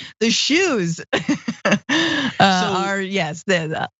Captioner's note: laugh